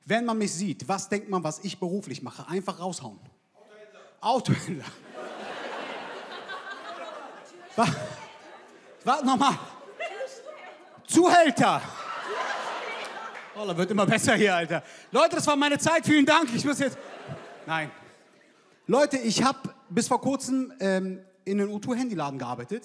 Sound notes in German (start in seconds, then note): 4.5 Gelächter; 7.8 lachend; 12.0 Schallendes Gelächter